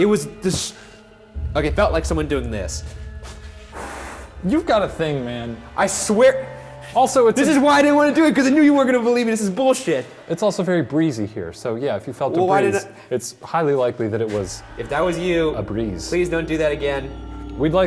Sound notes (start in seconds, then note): 2.8 blowing